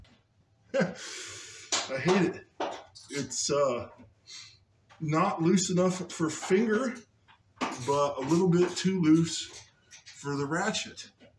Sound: chuckles

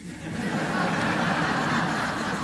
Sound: laughter

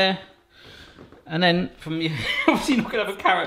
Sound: laughs

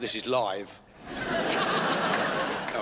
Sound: crowd laughs

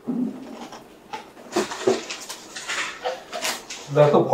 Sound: dishes clattering; sound of groceries being brought in

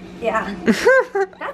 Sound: chuckles

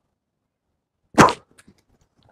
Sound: spits

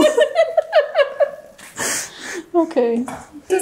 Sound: laughs

